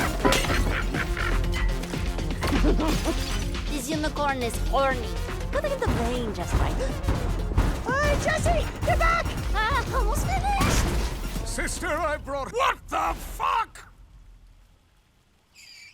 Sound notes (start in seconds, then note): 0.0 cackles; 3.3 cackles; 7.6 clomping